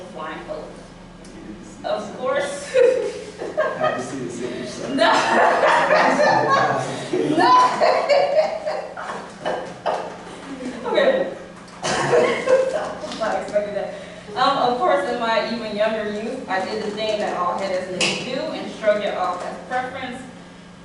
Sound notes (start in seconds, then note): 2.6 laughter; 11.9 laughter